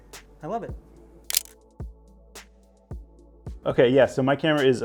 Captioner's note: camera shutter clicks